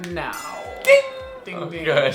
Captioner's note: bell dings